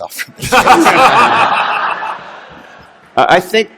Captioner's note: laughter